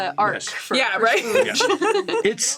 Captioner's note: laughs